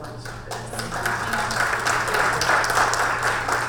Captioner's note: applause